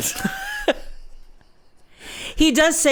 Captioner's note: laughs